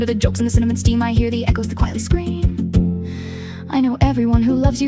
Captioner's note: female voice 1